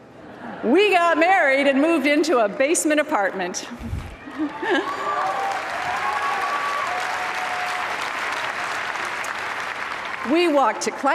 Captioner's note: applause